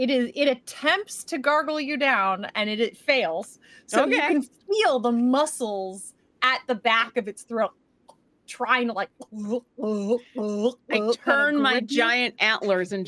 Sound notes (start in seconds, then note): 9.2 Deborah gulps